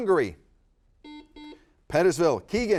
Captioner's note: buzzer beeps